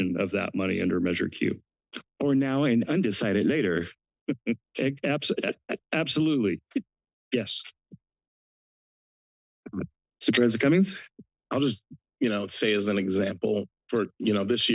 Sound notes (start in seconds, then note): 4.3 laughs